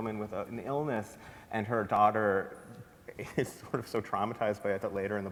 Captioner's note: laughs